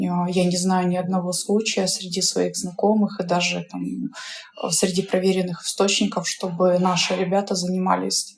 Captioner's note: Ukrainian